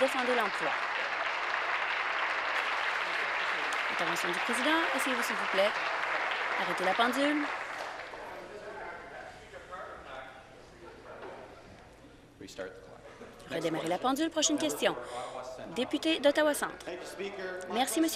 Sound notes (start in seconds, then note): 3.4 applause